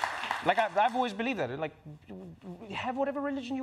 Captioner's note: stammers